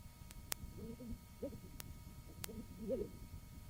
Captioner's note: coughing; clicking; coughing